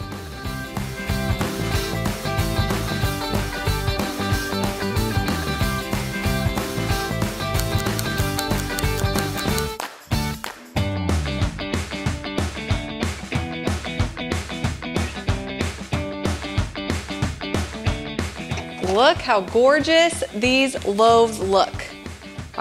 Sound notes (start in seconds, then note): 0.1 upbeat music continues; 7.5 timer ticking; 10.1 upbeat music continues